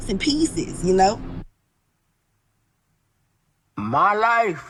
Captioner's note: silence